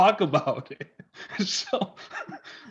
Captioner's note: laughing